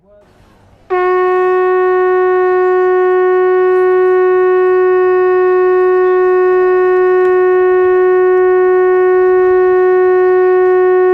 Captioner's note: sound of Shofar